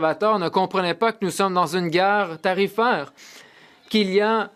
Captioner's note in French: voix de l'interprète